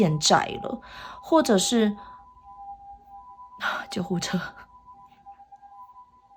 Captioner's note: ambulance